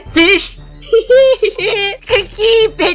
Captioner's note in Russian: сумасшедший смех